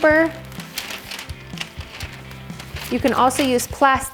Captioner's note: parchment crinkles